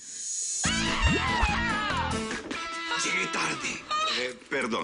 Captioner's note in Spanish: Grita